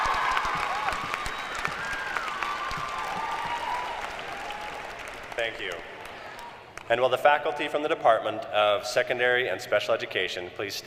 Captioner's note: cheers & applause